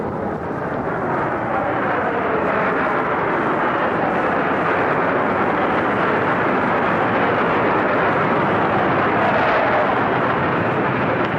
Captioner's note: planes flying overhead